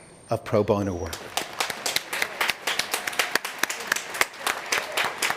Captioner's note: applause